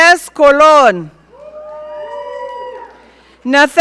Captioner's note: audience cheering